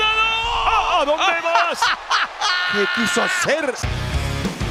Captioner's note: laugh